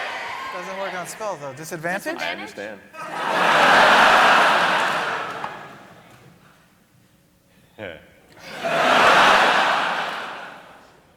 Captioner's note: chuckles